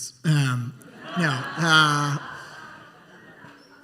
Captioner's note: laughter